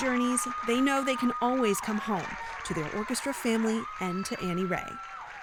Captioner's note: applause